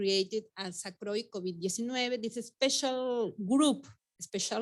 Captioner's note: speaking Spanish